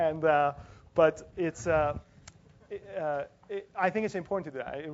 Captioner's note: laugh